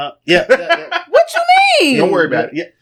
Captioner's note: laughing